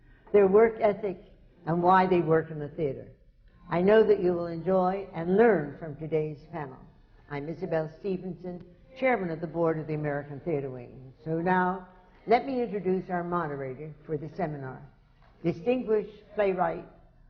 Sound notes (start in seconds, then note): none